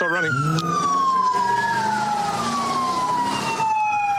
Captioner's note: engine revving